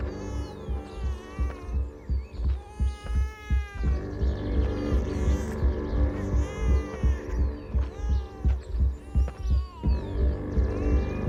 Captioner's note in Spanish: Gimoteos del bebé